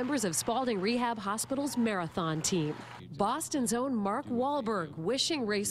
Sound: cheering and applause

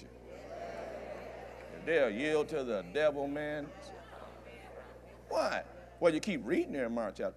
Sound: audience Affirms

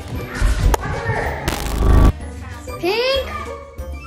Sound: electric zapping

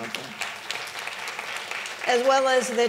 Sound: audience clapping

